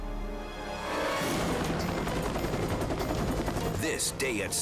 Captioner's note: helicopter blades chopping